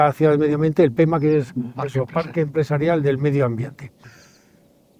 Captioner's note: in Spanish